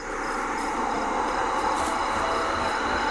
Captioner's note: slow whooshing